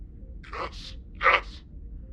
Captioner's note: sobs of joy